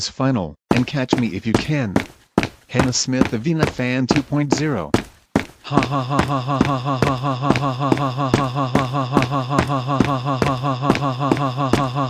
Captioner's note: laughing